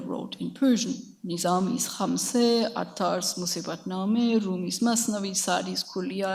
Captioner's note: speaks in a foreign language